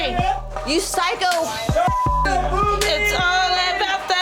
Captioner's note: beep